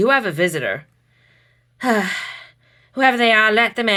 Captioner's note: sighs again